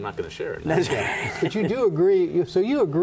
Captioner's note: laughter